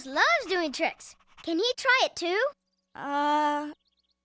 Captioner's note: barking